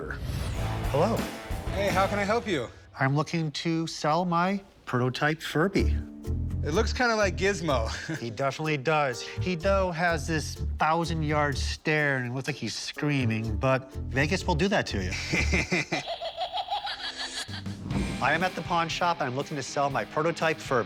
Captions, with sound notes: - Hello? - Hey, how can I help you? - I'm looking to sell my prototype Furby. - It looks kind of like Gizmo. - He definitely does. He, though, has this thousand-yard stare, and it looks like he's screaming, but Vegas will do that to you. - [laughs] - [menacing laughter] - I am at the pawn shop. I'm looking to sell my prototype Furby.